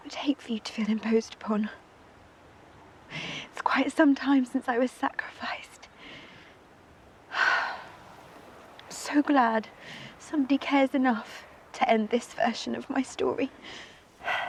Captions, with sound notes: I would hate for you to feel imposed upon. It's quite some time since I was sacrificed. (sighing) I'm so glad somebody cares enough to end this version of my story.